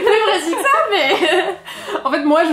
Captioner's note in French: rires collectifs